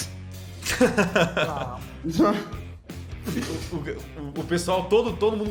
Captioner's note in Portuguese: risada; riso